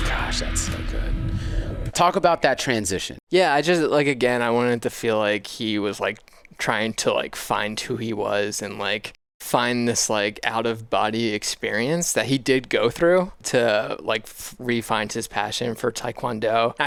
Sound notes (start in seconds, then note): none